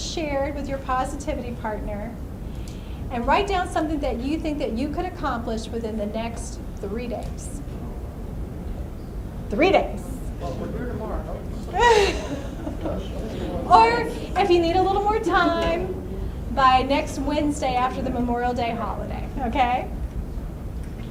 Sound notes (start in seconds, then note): 8.1 voiceover; 11.4 voiceover; 11.6 laughs